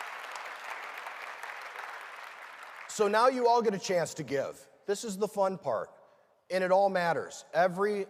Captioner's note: cheering and applause